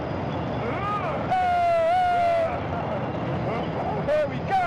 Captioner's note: yelling